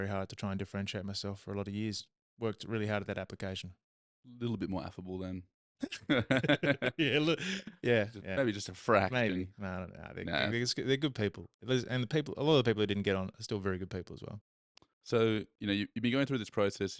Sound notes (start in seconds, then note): 5.8 both laughing